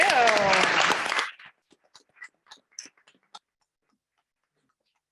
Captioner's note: members clapping